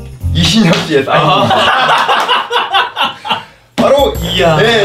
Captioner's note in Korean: 폭소